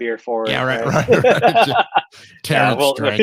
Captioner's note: laughs